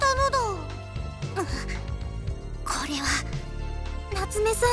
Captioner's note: shudder